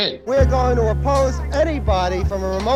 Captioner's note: soundbite of archived recording